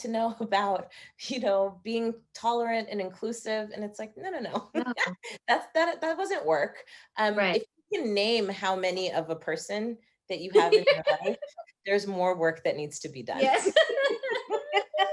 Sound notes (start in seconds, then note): 10.5 laughing